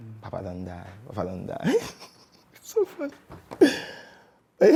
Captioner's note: laughter